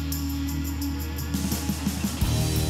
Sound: none

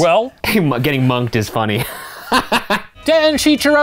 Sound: laughing

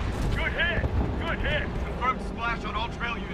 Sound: radio

